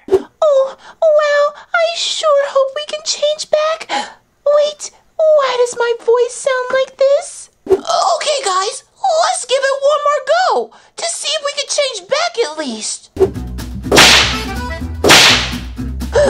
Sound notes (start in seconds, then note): 4.0 gasps; 15.0 slam